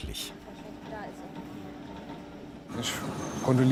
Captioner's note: quiet conversation, clattering in the background